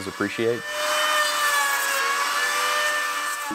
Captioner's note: saw buzzing